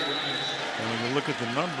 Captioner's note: whistle